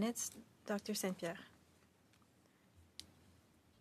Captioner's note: speaking French